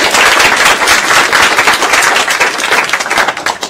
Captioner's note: applause